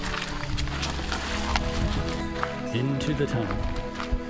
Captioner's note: laughs